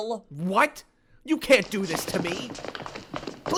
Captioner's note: sounds of a struggle and scuffling ensue